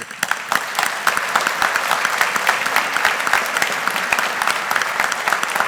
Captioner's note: audience applauding